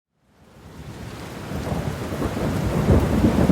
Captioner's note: hard rain; thunder